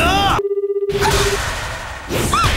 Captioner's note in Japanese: 呼び出し音